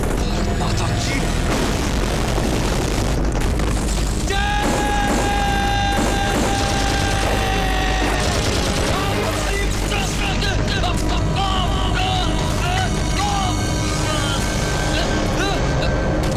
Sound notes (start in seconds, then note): 1.2 Explosion; 5.3 Gunshots